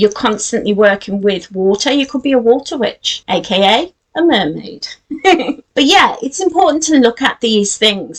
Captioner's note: giggles